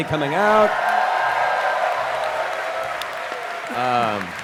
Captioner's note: cheering